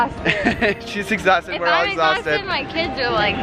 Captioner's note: chuckles